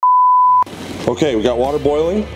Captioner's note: buzzer beeps